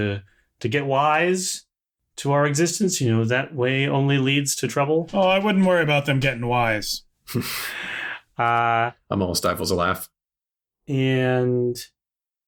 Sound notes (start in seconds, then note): 7.2 laughter